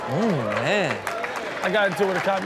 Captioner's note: audience applauds